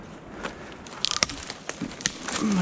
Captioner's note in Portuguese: galhos quebrando